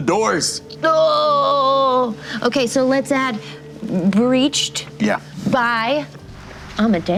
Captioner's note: shocked moan